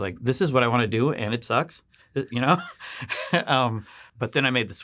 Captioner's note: chuckles